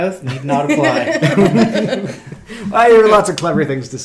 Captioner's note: group chuckles